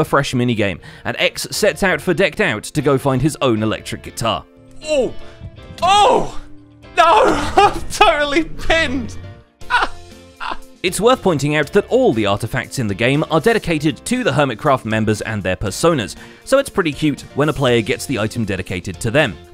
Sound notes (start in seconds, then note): 6.9 panicked noises